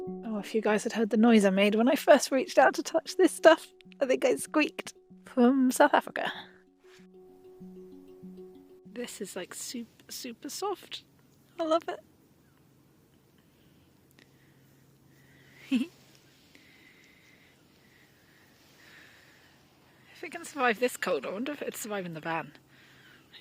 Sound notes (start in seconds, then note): 15.6 chuckles